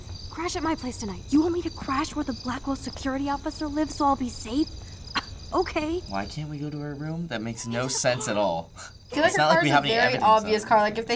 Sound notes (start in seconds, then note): 7.2 scoffs